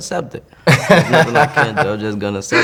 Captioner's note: laughing